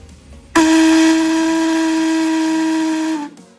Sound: blaring

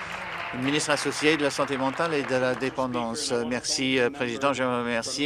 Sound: applause

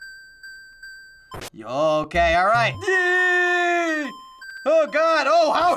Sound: yelling

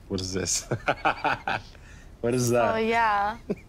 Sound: laughs

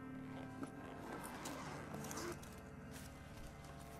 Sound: bag unzipping

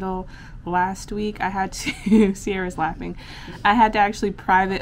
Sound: chuckles

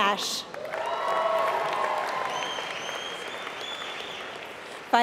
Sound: applause

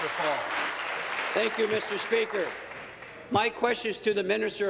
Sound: applause

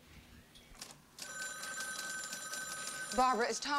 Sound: telephone ringing

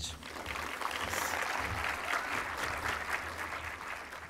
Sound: audience clapping

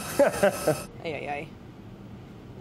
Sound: laughing

